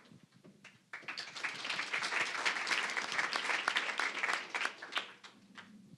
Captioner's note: applause